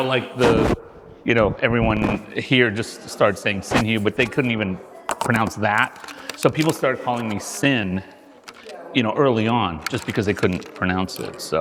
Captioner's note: mumbling